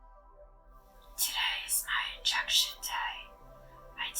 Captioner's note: hushed voice